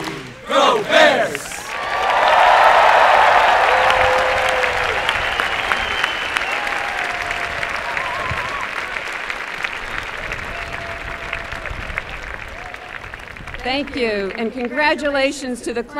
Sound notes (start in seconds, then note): 0.9 applause and cheering